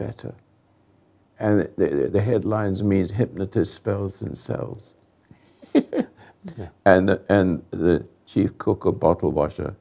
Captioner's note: chuckles